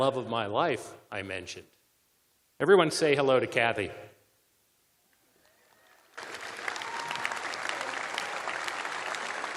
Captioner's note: cheers and applause